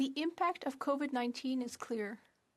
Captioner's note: speaking French